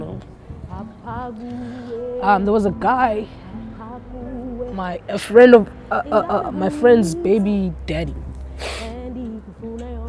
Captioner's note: teary voice